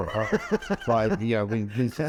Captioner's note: laughing